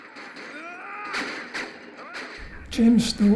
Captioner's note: gunfire and shouting